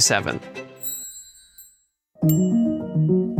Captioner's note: bells chime; bright music